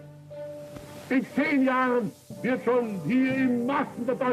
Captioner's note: speaking German